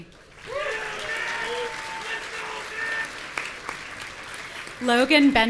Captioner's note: audience cheering and shouting